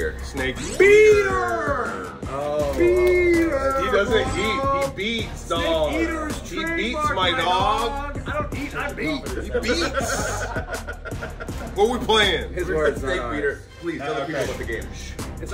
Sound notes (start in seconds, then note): 8.9 laugh